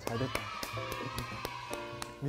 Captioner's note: clap clap clap clap clap clap